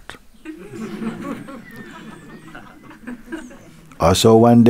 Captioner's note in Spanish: Risas